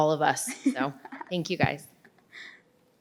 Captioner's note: participant laughs